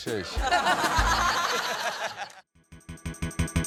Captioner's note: laughter